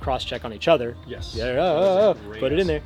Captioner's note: panicked breathing